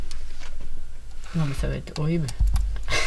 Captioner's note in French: rire